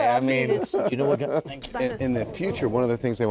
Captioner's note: laugher